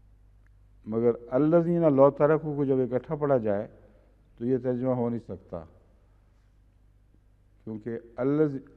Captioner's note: Arabic; Arabic